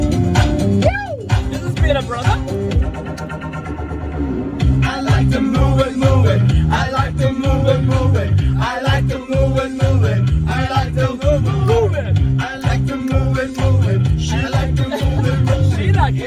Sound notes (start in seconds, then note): 1.0 man yells